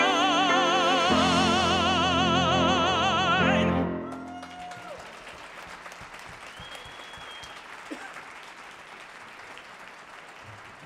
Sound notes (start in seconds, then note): 4.0 audience cheers and applauds